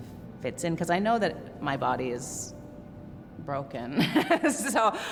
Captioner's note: laughs